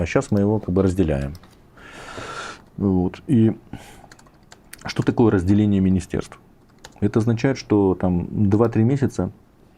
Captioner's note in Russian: тяжело вздыхает